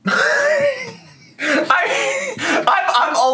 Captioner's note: laughs